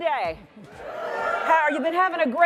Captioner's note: audience cheers